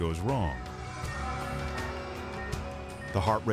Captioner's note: monitor beeping